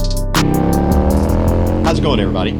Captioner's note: bike engine roaring